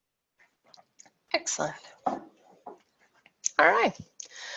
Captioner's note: none